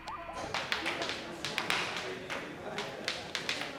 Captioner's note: tapping